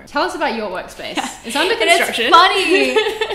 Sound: laughs

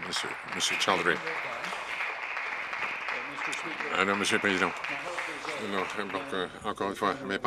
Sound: some Applause

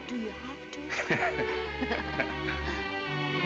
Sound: laughs; instrumental music

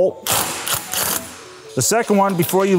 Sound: driver whirring

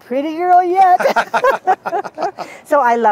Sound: laughter

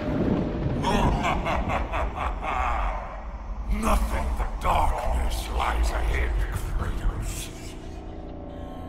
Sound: laughs

